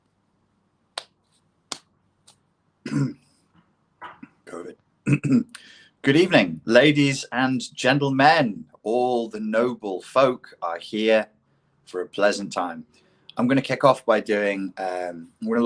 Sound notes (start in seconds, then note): 2.8 clears throat